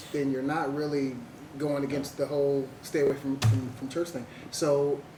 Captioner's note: bangs on table